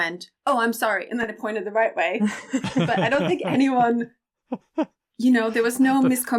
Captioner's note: laughter